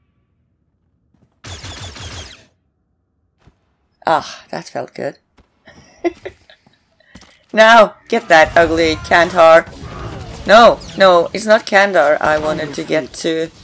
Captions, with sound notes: Ah! That felt good! (laughs) Now, get that ugly Kandhar.. no, no! It's not Kandhar I wanted to get to.